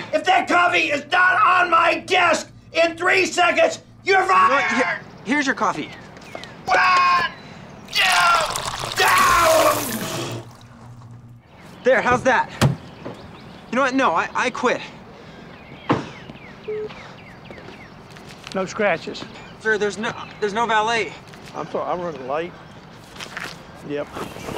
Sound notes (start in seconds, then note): 7.9 screaming; 7.9 pouring; 16.6 beep